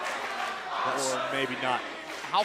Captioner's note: fans chanting